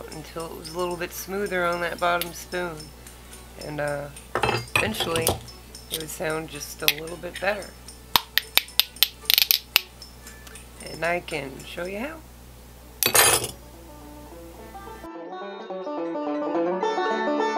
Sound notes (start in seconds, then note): 8.1 spoons clicking; 13.5 cheerful folk music